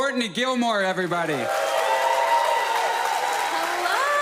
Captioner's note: audience cheers